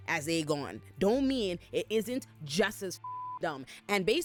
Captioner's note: beep